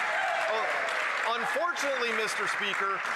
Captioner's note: cheers & Applause; some Applause